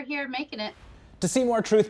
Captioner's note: air whooshing